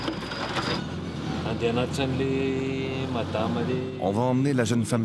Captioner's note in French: audio parlé en français